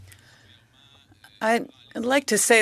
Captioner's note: speaking in French